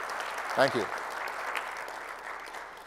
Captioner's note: applause